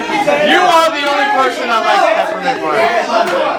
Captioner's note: arguing